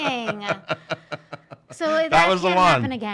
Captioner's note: laughing